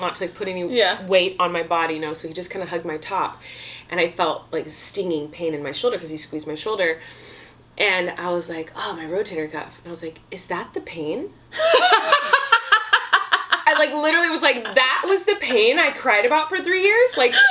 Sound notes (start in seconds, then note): 11.6 laughs